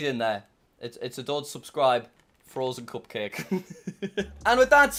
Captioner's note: laughs